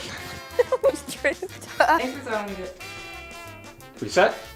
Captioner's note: laughs